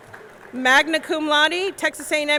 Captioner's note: audience cheering; audience clapping